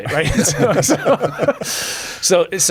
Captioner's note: laughter